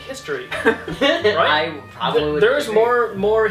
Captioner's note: laughter